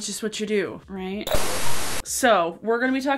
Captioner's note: static buzzes